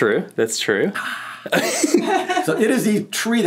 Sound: laughing

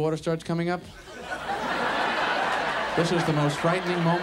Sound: audience laughs

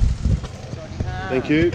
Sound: child speaking in foreign language; man speaking in foreign language

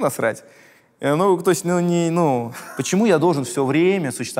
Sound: Dud starts laughing

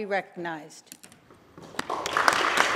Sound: applause

